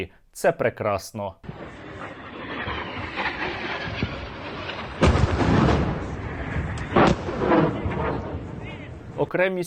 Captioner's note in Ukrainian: вибух